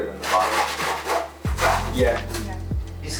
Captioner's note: racks clatter